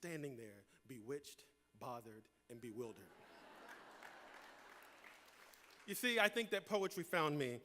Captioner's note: laughter